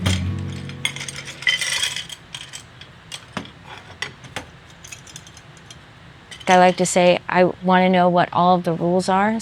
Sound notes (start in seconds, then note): 0.0 pencils clatter